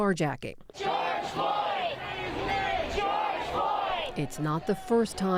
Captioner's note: chanting